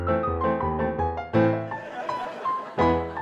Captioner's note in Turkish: Gülme efekti